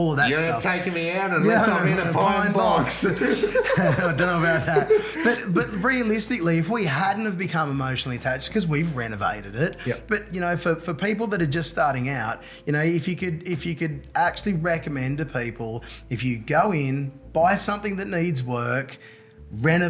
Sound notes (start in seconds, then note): 3.0 laughs